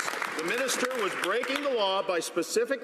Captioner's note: some Applause